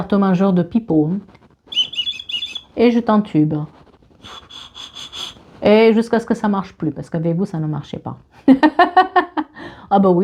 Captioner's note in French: rires